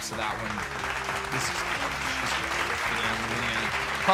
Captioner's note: applauds